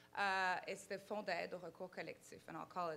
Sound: speaking in foreign language

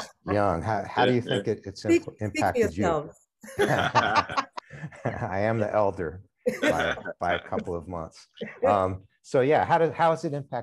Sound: laughs

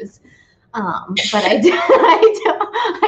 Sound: laughs

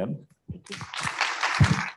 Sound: applause

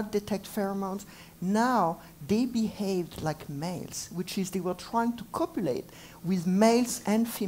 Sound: none

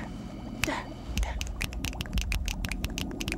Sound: none

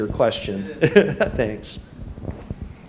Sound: laugh

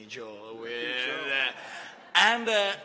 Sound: laughter

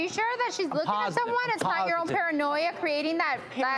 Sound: hitting podium

